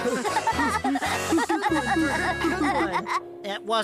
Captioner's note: machines Laughing